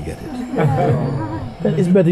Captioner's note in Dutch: gelach